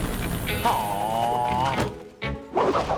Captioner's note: groaning